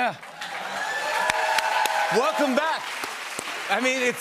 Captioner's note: cheers and applause